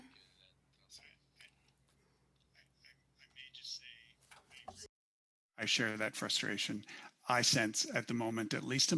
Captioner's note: speaking French